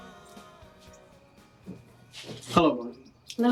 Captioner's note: door thudding; footsteps thudding